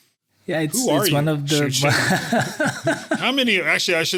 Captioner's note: laugh